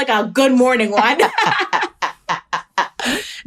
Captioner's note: laughter